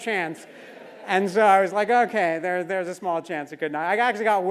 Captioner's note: laugh